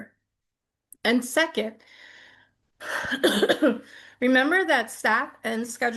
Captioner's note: coughs